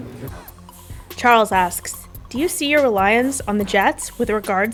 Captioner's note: voiceover